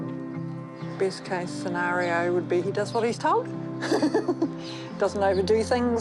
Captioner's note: laughs